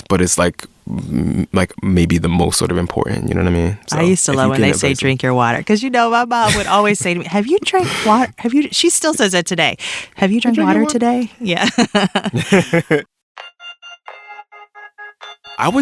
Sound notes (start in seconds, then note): 10.5 laughs; 13.5 smooth techno music